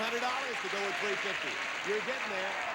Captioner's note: audience applauding